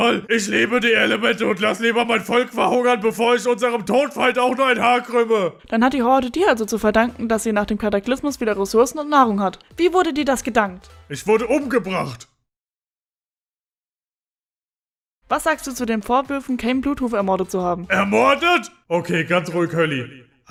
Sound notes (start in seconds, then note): 12.3 awkward silence